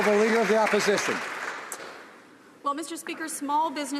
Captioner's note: applause